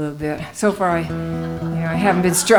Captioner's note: laughing